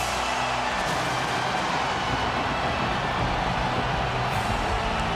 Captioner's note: audience cheering; lightning crashing